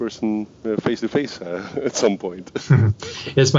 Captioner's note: laughs